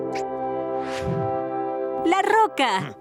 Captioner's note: squeak